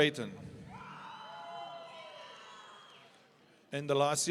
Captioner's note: audience cheering